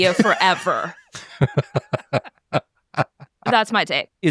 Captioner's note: laugh